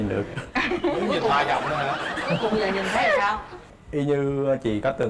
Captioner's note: laughs